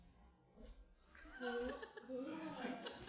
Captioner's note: mumbling